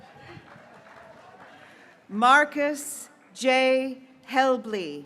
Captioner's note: graduates cheering